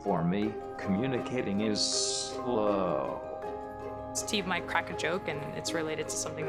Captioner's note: none